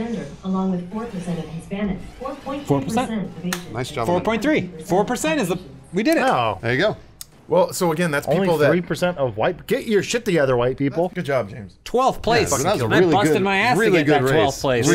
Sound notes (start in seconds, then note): 3.5 clap